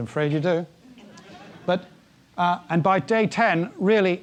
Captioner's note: laugh